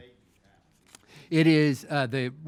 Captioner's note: mayor speaking off microphone